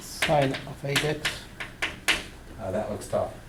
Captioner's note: voiceover